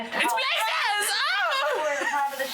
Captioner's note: squeals